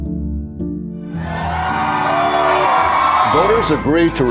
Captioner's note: crowd cheering